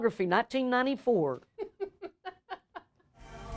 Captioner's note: laughter